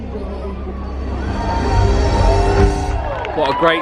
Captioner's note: crowd cheering